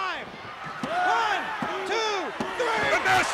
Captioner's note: crowd cheering